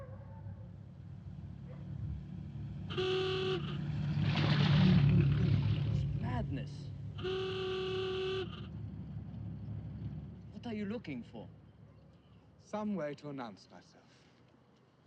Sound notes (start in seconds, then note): 0.1 dog barking; 2.8 horn honks; 6.9 horn honks